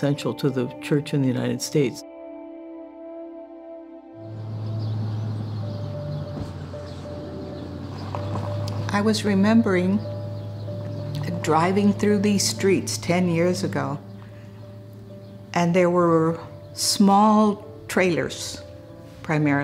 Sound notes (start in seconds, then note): 4.4 birds chirping; 7.0 soft music